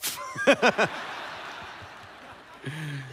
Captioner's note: laughter